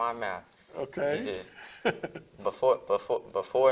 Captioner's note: laughs